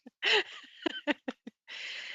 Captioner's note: laughter